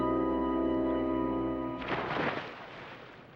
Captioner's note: splash